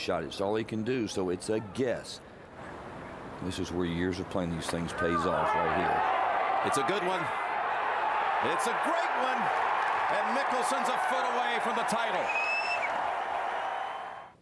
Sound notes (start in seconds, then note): 5.8 <i> crowd cheering</i>; 12.4 <i> cheering and applause</i>